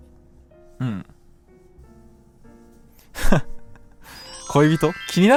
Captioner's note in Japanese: 笑い